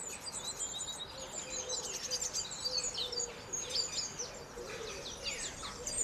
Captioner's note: birds chirping intensify